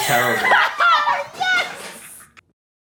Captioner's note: laughing